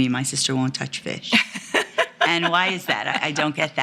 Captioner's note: woman laughs